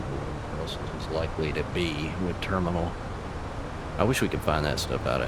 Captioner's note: radio chatter